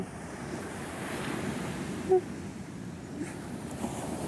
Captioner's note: crying